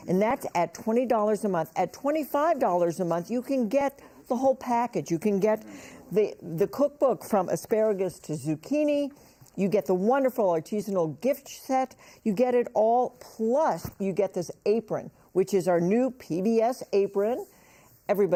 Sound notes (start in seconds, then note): none